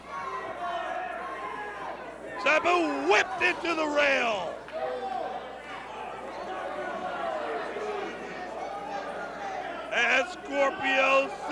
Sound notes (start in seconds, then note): 2.4 crowd chatter; 11.3 crowd chatter